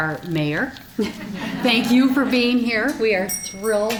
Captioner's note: audience chuckling